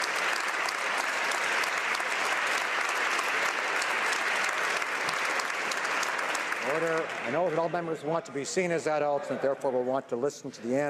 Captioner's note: some Applause